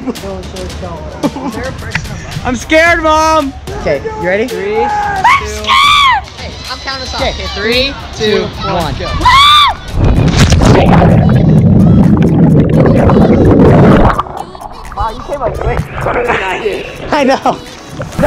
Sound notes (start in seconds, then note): 5.2 shrieks; 9.2 screams